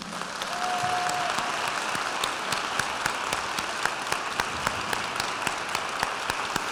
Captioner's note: audience applauds; attendee cheers